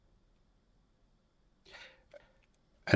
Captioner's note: silence